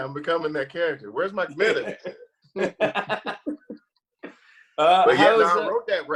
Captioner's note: both laugh